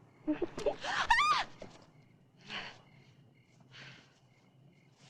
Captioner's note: Carol screaming